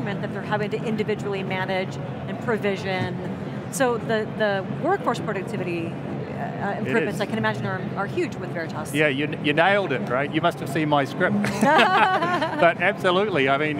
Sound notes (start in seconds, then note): 11.4 laughs